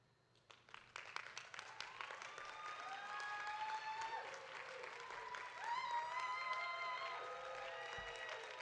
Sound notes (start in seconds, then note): 0.7 audience applauding; 1.9 audience cheering